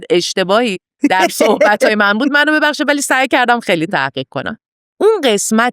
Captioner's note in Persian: خنده